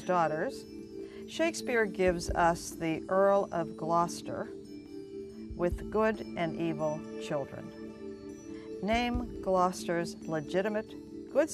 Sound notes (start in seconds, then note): none